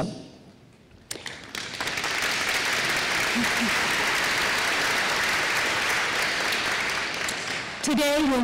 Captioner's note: applause